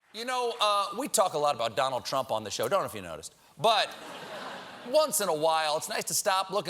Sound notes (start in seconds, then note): 3.8 laughter